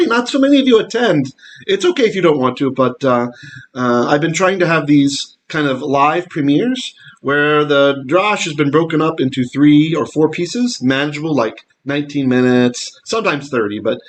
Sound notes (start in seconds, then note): 7.3 Hebrew